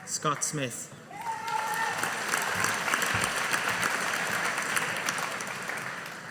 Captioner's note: audience applauding